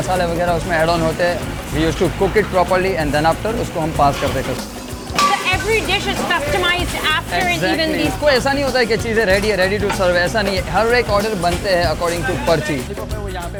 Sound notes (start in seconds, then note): 0.1 speaks in foreign language; 4.4 speaks foreign language; 9.3 speaks foreign language